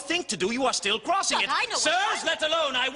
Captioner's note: protests